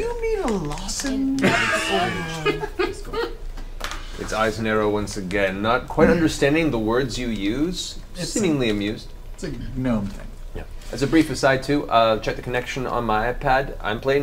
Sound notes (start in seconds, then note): 1.4 all laugh